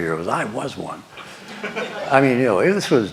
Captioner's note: laughter